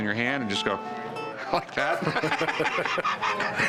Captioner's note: both laugh